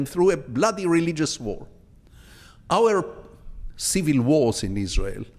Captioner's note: none